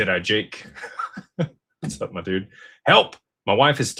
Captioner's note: laughter